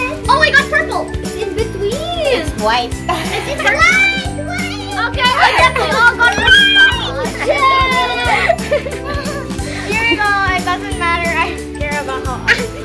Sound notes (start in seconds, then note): 7.7 laughing